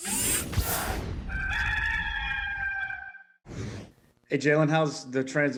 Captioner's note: gamecock crowing